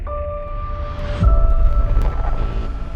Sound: ominous music continues; menacing bass building; sounds distort

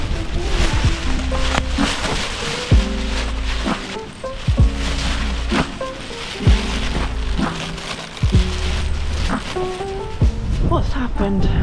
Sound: rustling

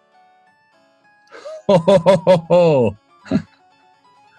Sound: chortling

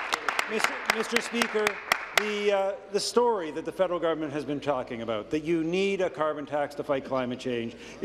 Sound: applause

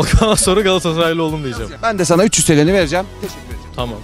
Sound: laughter

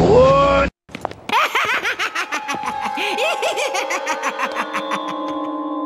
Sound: deranged laughter

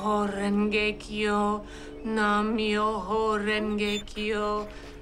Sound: chanting

